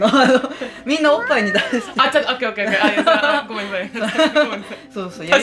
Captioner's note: laughs